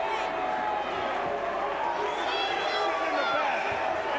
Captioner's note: crowd chatter